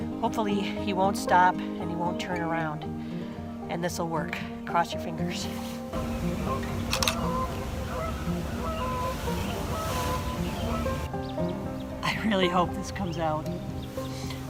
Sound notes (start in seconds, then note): 6.9 shutter snaps; 8.4 goose honking